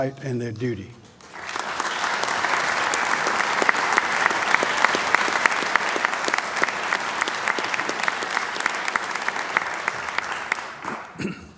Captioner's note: applause